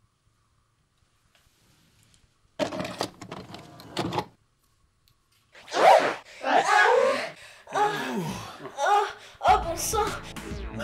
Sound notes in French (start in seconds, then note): 2.6 bruit d'insertion de cassette